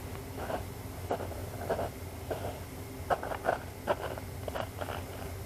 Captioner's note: crunching sounds